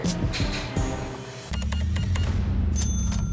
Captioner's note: beeps; register dings